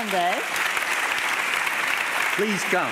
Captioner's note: audience applauding